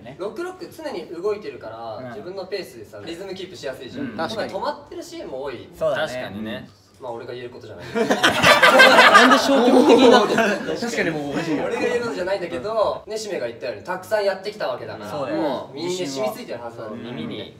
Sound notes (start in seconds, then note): 7.9 laughs